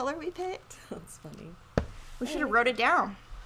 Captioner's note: chuckles